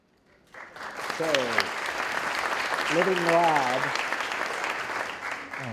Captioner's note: audience applauding